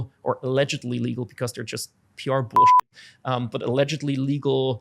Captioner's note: beep